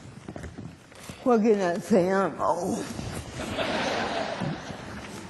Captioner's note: laughter